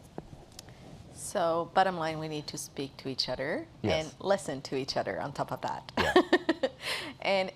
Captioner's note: laughs